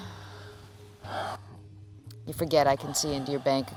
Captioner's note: man sighs